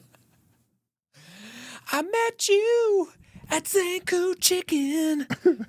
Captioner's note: laughing